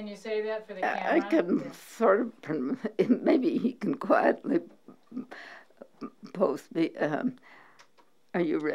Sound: pause for voices in the background

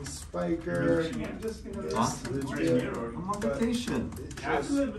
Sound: murmuring

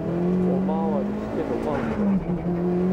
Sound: throttle

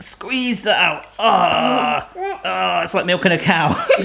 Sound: grunting

